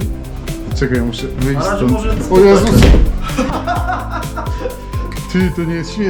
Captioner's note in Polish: śmiech